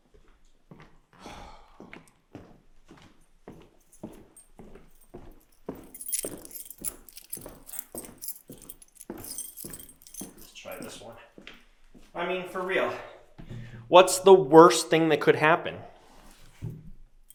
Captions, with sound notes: (Jacob sighs) (keys clanging) Let's try this one. I mean, for real, what's the worst thing that could happen?